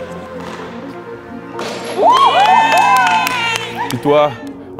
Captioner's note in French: Cris et applaudissements